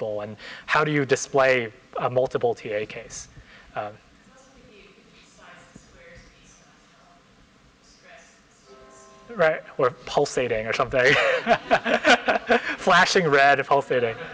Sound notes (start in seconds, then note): 9.0 clock sounds